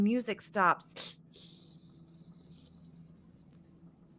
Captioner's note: hisses